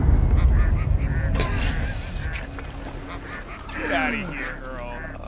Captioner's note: laughter